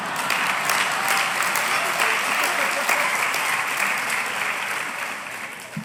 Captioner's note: applause